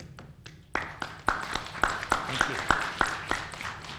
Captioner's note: applauding